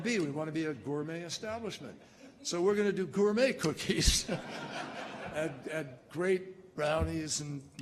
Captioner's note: laughter